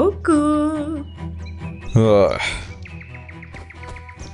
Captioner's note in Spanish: suspira